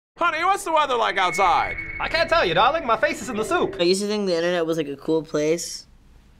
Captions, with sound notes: - (stately voice) Honey, what's the weather like outside? - (stately voice) I can't tell you darling, my face is in the soup. - I used to think the internet was a cool place...